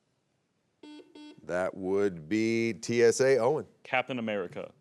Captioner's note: buzzer beeps